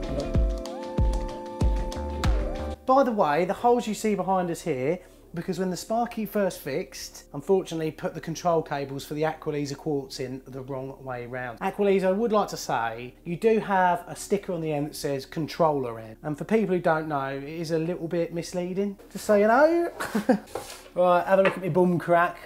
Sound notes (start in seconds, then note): 0.2 bright music; 20.0 laughs